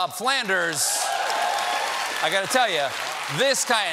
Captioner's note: cheers and applause